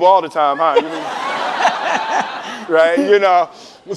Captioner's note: laughing